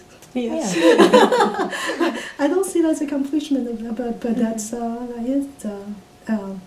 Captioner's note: all laugh